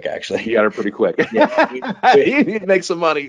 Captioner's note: laughing